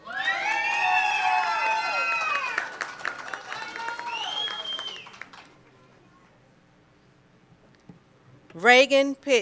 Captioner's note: cheering and Applause